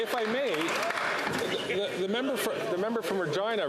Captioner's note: cheering and Applause